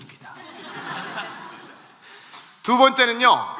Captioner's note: laughs